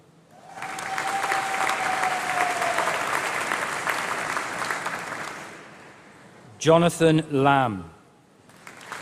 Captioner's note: applause